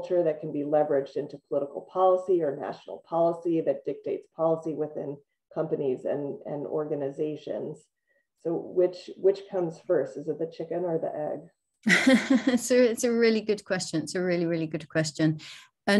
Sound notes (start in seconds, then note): 11.9 laughs